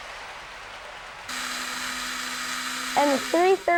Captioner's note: mechanical noise